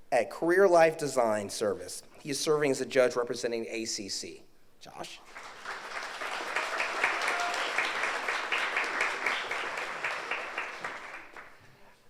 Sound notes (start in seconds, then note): 5.2 audience applauds